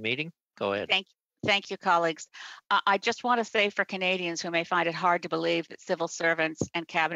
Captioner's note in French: voix de l'interprète